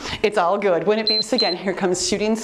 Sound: timer beeps

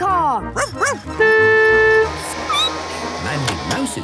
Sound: barking; honking; squeaking

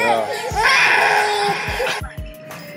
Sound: baby crying

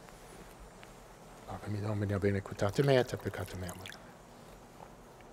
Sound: speaking Latin

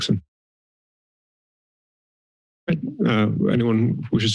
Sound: silence

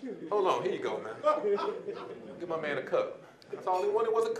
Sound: audience laughing

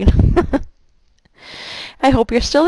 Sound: laughing

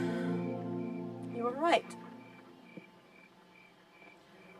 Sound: sighs

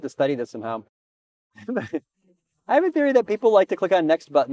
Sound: chuckles

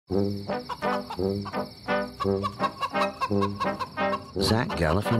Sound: chicken clucking

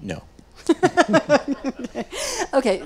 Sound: laughing

